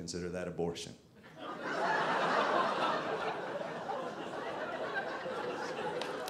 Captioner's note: audience laughing